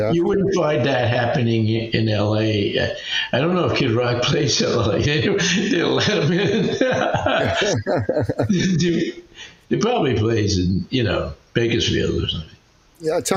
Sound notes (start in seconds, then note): 6.3 both laughing